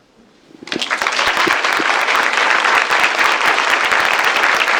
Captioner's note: applause